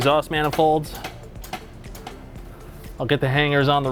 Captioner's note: tool thumping